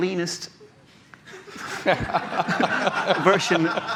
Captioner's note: laughter